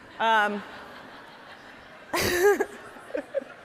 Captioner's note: all laughing